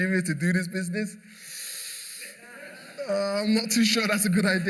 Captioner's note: laughter